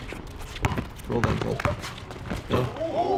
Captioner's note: basketball bouncing